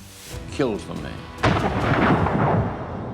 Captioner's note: gunshot